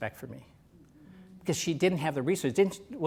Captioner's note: audience: "Mmmmm."